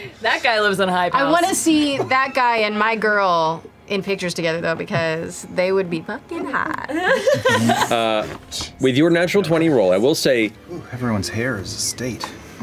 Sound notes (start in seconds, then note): 6.9 laughter